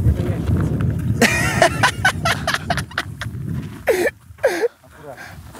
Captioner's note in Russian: смеются